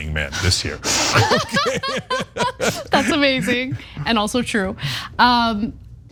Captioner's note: laugh